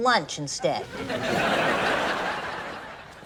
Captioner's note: laughs